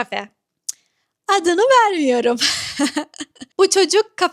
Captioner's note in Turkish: ahaha